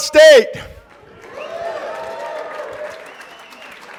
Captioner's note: applause